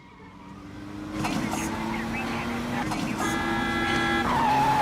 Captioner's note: honk; screeching tires and crash